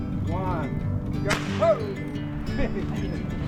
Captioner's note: starter gun goes off